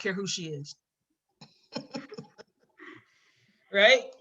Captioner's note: laughs